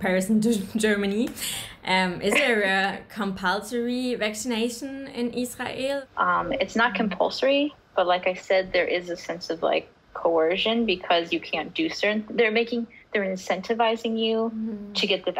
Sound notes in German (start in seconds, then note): 5.7 englisch